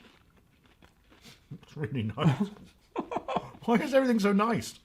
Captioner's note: laughing